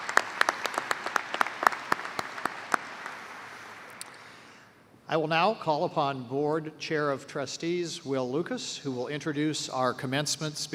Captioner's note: applause